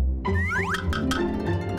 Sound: upbeat music; whistle and swoop sound

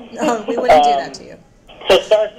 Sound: laughs

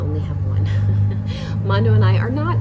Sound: laughs softly

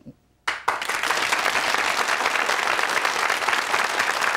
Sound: audience clapping

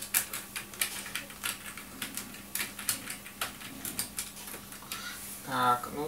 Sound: typing

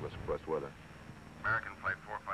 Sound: man on radio

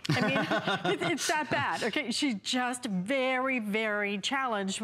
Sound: laughter

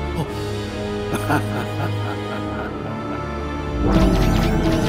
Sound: laughing

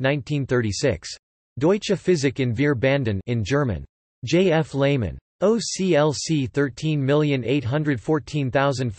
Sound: in German

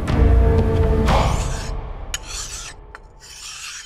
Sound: knife sharpening

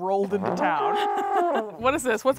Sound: both laughing

